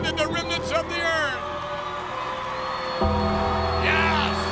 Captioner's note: audience cheers